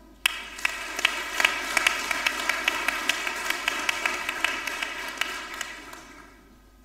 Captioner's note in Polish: oklaski